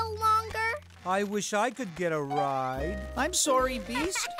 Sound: laughing

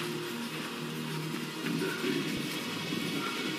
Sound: distorted

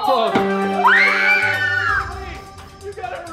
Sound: victory music; cheering

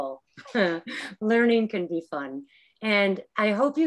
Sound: chuckling

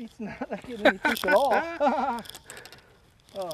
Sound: laughter

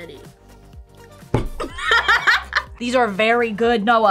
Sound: laughs

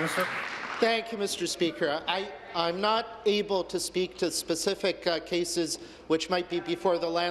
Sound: applause

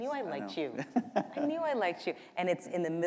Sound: chuckle

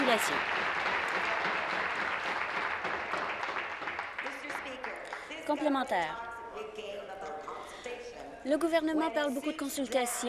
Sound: some Applause

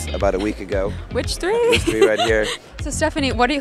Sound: laughs

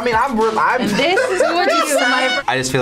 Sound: laughs

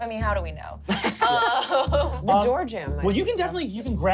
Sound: laughing

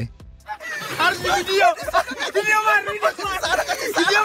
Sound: diver panics in foreign language; onlookers laughing

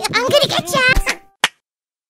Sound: clap

